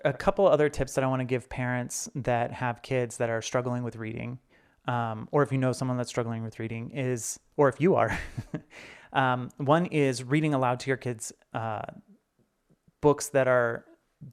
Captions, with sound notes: A couple of other tips that I want to give parents that have kids that are struggling with reading, or if you know someone that's struggling with reading, or if you are. (chuckles) One is reading aloud to your kids books that are,